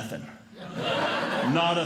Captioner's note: audience Laughing